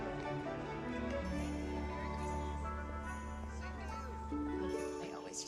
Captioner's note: chattering